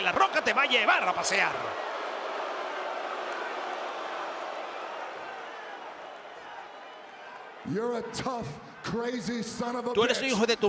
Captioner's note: applause